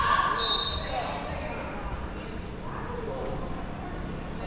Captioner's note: whistle being blown